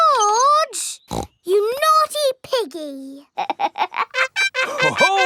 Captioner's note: snorts; laughs